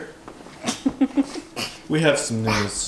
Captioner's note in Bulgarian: смее се